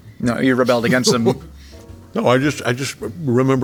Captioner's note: J.K. laughing